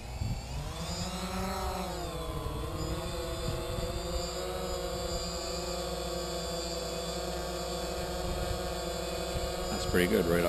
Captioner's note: buzz, buzz, buzz